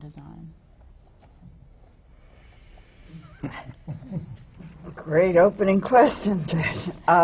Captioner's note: laughter from the panel